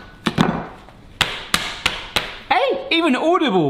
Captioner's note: frozen steak smacking loudly; thawed steak slapping mildly